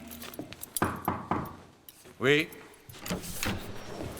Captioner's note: knock at door